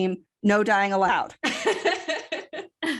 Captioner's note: laughter